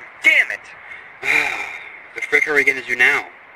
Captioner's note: sigh